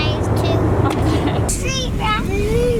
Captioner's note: laughs